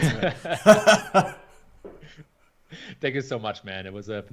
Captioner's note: laughing